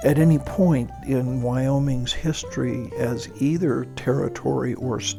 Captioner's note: voiceover